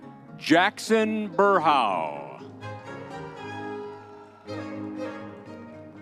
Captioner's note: crowd cheering